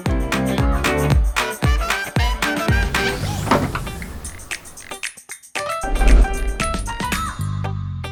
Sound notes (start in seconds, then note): 2.8 clattering